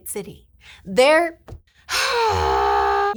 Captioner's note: sighs loudly